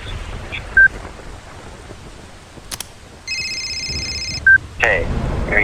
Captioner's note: phone rings